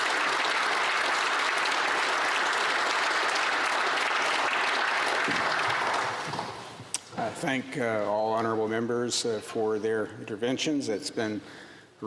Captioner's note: applause